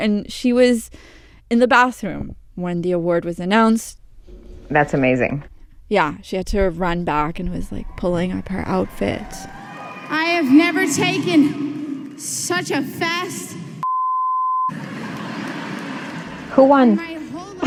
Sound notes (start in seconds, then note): 8.2 soundbite of 64th annual grammy awards broadcast; 14.8 laughter